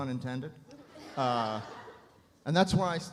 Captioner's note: audience laughs